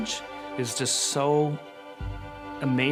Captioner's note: none